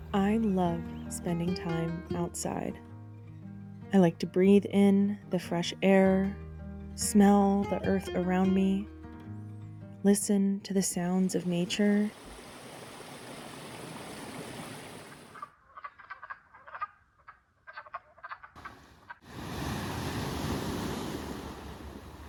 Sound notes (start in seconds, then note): 12.1 waterfall rushing; 12.3 bird cawing; 19.2 waves crashing